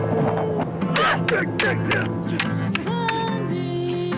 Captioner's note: fighters grunting